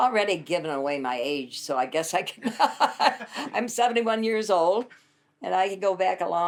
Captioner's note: laughs